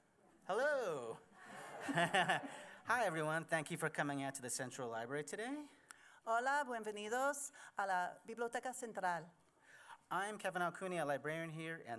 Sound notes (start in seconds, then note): 1.5 chuckles; 6.3 Spanish language